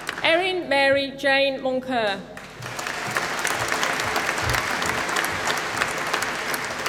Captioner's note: applause